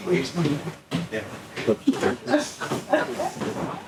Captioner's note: laughing